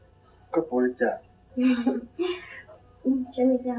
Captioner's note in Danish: klukker